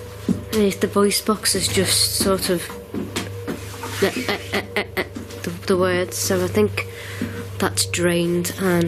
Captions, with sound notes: Yeah, the voice box is just sort of (stuttering) the words. So, I think that's drained